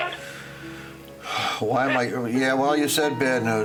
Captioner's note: sighs